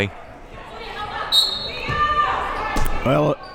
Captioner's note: whistle blows